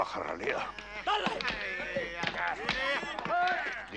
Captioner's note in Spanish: gritan